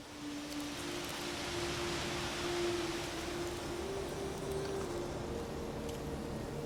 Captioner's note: leaves rustling